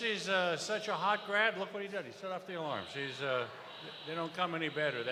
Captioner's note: cheers and applause